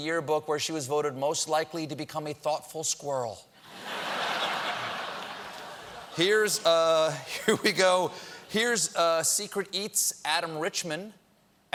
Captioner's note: laughter